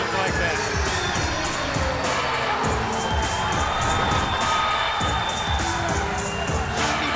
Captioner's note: spectators cheering; upbeat music